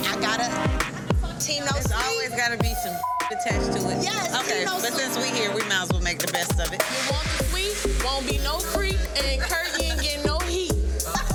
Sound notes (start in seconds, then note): 2.7 beep